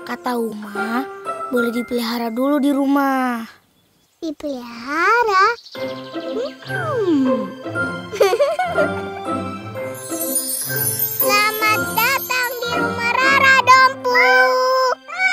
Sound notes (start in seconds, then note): 8.1 laughing